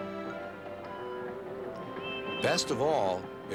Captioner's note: hoots